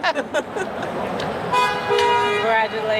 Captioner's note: horns honking